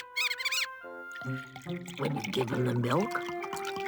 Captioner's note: mouse squeaking; milk pouring